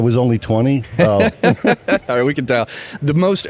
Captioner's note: laughs